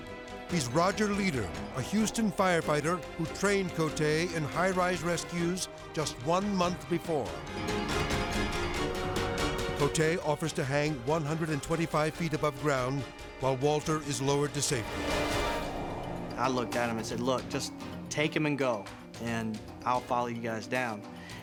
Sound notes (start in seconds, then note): 7.2 tense music; 14.7 wind whooshing; 15.0 tense music